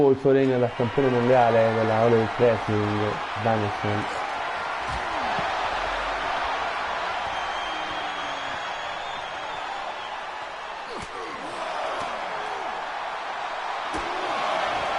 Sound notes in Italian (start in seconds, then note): 8.1 Applauso